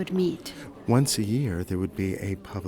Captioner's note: voiceover